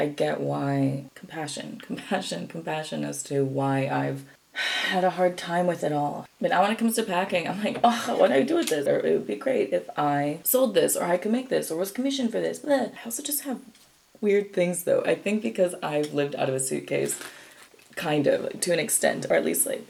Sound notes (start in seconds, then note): 4.4 sighs; 7.6 ugh